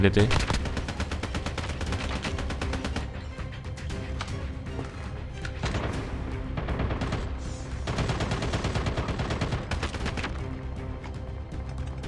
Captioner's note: Firing shots